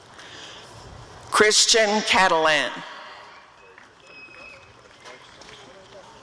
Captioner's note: applause and cheering